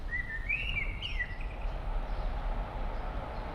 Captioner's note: birds chirping; SUV engine revving